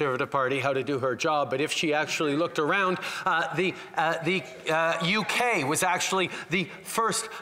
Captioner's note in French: voix de l'interprète